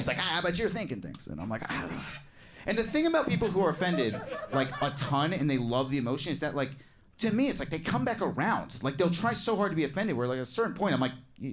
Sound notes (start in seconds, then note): 2.7 audience chuckles